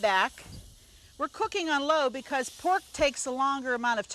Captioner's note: pork sizzles